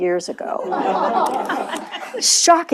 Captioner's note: laughter